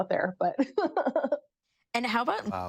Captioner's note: laughs